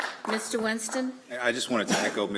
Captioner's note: applause